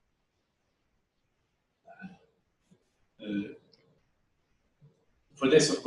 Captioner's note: pause